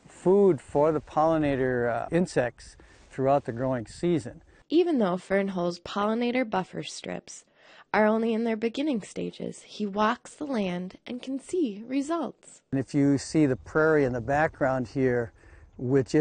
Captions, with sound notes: to provide food for the pollinator insects throughout the growing season. - [Voiceover] Even though Fernholz's pollinator buffer strips are only in their beginning stages, he walks the land and can see results. - And if you see the prairie in the background here,